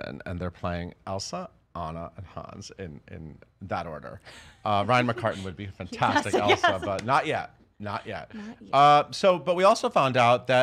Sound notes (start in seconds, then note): 6.0 chuckles